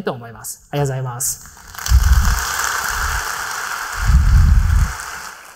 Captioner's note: applause